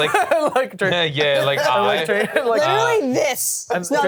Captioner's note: laughs; all laughing